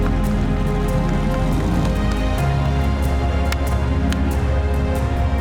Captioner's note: car engine revving